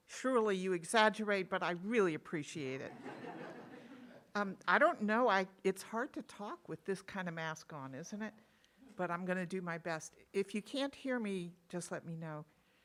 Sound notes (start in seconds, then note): 2.9 audience laughing